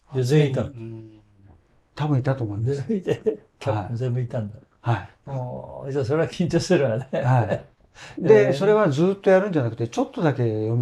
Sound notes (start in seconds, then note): 2.8 laughs